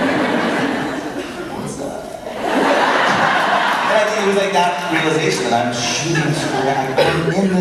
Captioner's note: crowd laughs harder